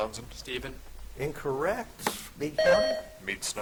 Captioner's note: buzzer chiming